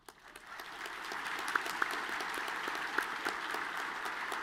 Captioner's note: all clapping